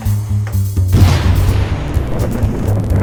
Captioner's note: missile fires, whistling; explosion; wobbly sounds